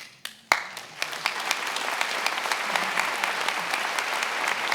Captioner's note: attendees applauding